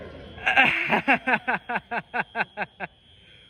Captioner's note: laughter